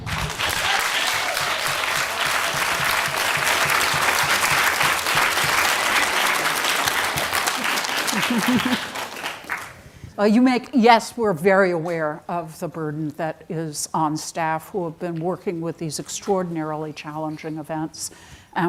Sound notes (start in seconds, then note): 0.2 audience applauding; 8.0 chuckles